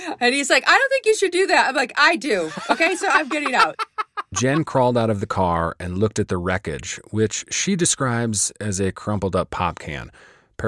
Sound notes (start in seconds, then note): 2.4 both laughing